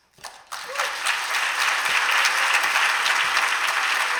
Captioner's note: applause